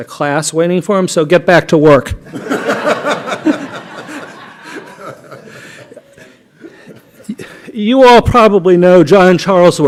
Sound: laughter

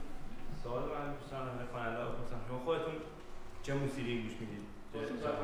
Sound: speaking in farsi

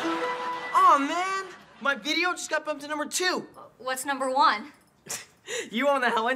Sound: phone chimes

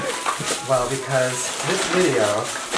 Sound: loud rustling of plastic bags

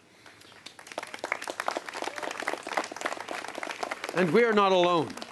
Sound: applause

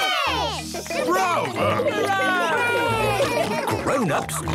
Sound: cheering, applauding

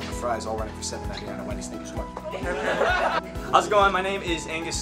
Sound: laughter

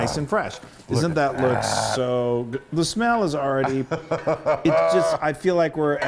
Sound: laugh

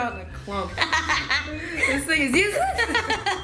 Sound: laughing

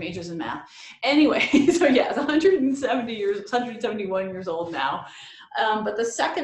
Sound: laughs

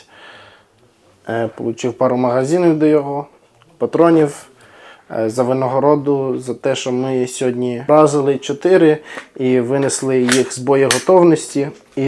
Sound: cannons

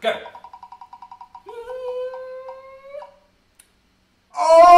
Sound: nervous... sound

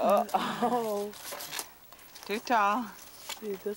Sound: laughs

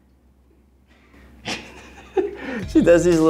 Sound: laughing

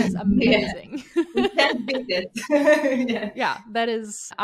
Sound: chuckles

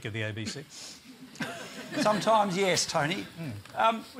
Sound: laughter

